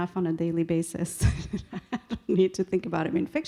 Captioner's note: laughing